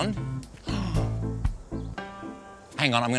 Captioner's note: gasps